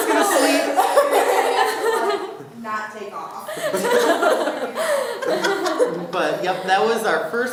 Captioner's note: laughing